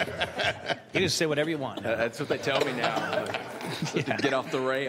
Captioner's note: laughter